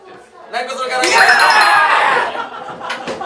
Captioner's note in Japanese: 大歓喜